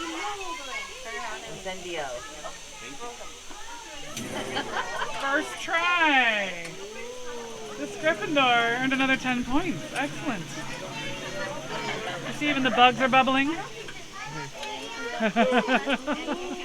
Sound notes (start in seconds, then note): 4.0 flames whoosh as spell "ignites" all the candles and coals in the window